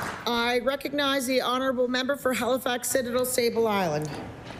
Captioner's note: applause